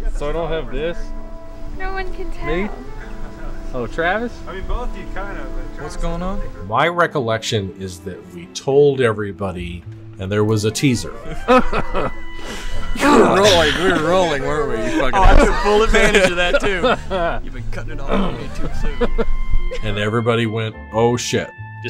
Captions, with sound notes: - So I don't have this. - No one can tell. - Me? - Oh, Travis? - I mean, both of you kind of. - What's going on? - My recollection is that we told everybody, and there was a teaser. [chuckles] - We were rolling, we were rolling, weren’t we, you fuckin’ assholes? [laughing] - Oh, I took full advantage of that, too. And everybody went, “Oh, shit!”